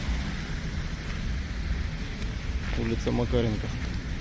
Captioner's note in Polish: odgłosy wody